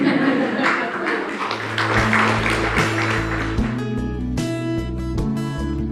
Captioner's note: audience laughs and applauses